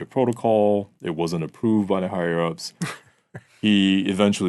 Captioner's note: laughing